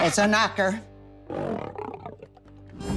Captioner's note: lion growl